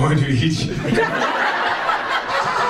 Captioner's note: audience laughs